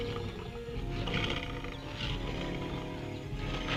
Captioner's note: lions grunting